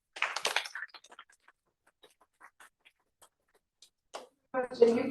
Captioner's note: applause